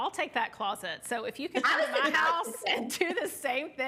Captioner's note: laughing